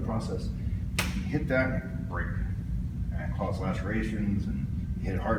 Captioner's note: smack